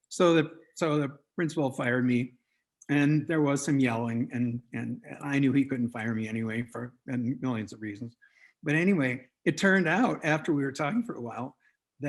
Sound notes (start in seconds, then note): none